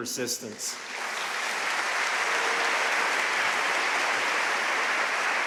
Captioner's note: audience cheering and applauding